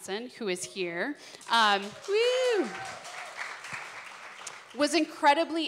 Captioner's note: applause